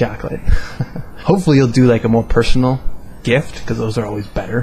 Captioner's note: haha